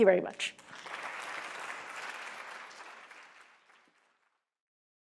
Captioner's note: audience applauds